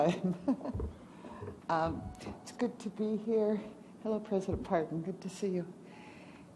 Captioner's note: laughs